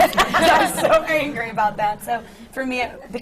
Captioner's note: laughter